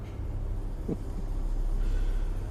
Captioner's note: laughs